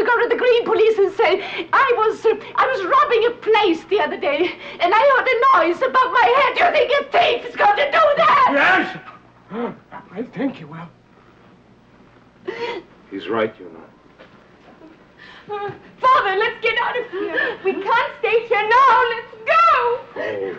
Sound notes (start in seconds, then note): 12.4 Petronella gasping; 15.0 crying